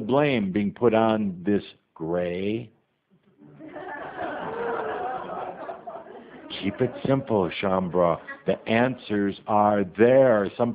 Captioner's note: audience laughter